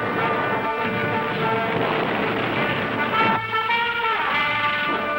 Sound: canons booming

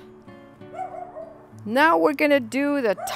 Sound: dog barking

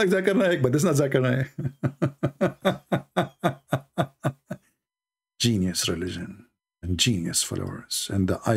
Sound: Ketawa

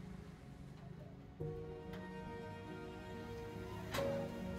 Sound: creaking metal door opening and closing

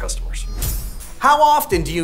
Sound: blade slicing

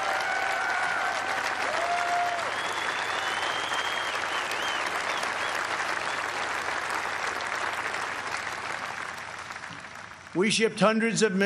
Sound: applause

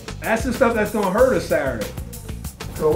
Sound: voiceover

